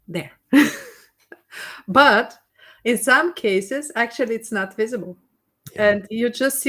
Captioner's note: laughs